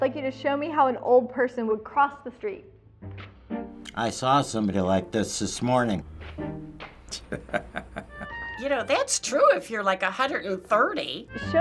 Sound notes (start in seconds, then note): 7.1 chuckles